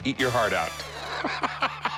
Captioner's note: laughs